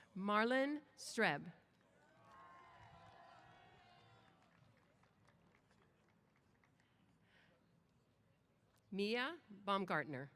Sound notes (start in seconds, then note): 2.0 applause & Cheers